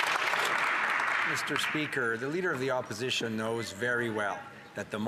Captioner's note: some Applause